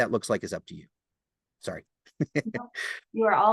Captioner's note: laughs